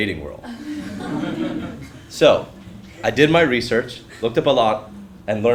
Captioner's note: laugh